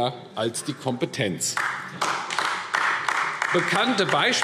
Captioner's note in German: Beifall AfD